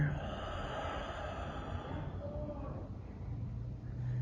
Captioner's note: exhales